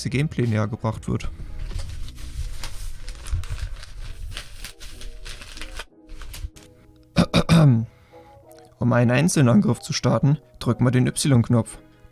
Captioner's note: cough